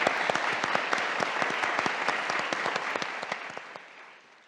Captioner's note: audience applauding